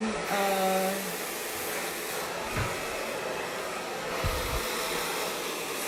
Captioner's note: hairdressing equipment running